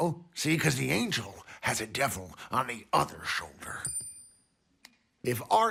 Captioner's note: coin clinks